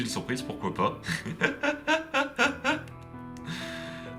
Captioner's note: laughs